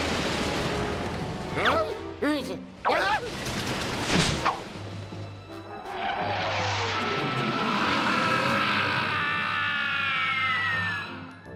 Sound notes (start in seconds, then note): 6.5 jet engine streaking